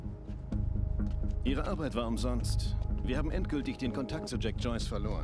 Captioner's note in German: none